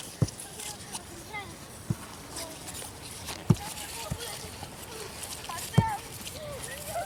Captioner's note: the loud sound of a ball hitting